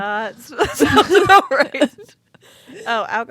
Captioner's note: both laughing